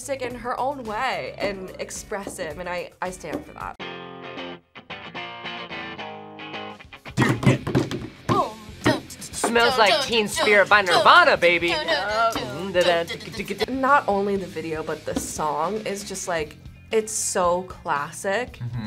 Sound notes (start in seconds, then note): 7.3 both imitate percussion; 12.6 both imitate percussion